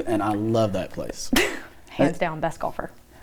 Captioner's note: laughing